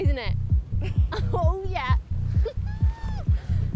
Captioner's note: laughs